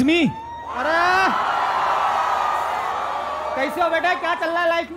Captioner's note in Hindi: चियरिंग